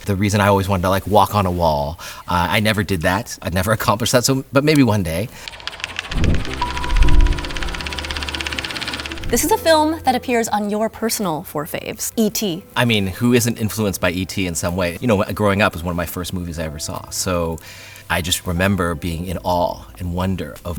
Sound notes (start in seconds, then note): 5.4 film reel clicking